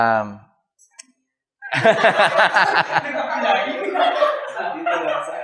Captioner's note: laughter